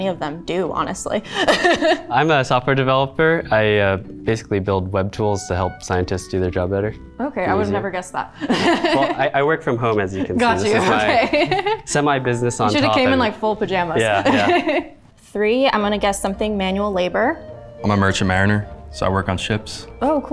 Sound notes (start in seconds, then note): 1.3 laughs; 8.4 laughs